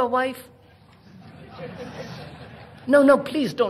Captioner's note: laughter